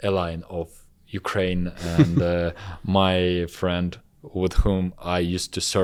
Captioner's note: laughs